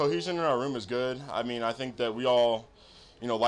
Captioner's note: Noah sniffs